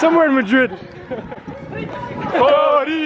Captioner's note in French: rire